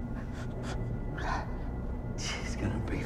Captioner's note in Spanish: Woeland gruñe